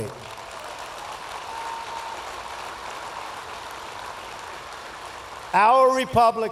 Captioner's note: applause